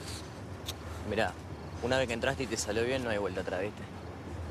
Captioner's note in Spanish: chasquea la lengua